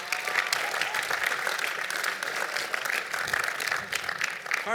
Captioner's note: applause